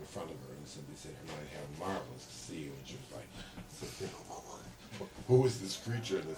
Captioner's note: gasps